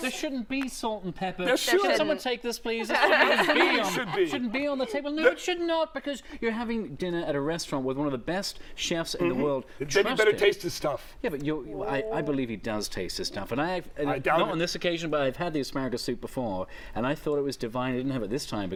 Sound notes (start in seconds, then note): 5.1 laughter